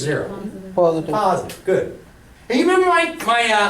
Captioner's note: voiceover